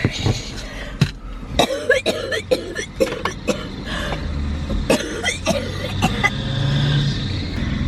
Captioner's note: coughing